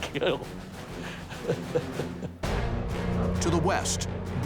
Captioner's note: chuckles